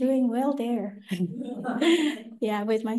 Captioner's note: laughter